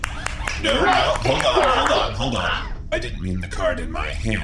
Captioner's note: scattered applause